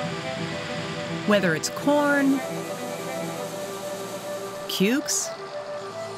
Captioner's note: tractor sounds